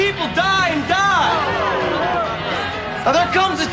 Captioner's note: booing